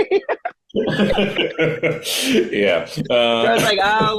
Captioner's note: laughing